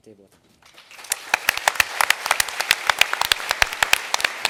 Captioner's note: applause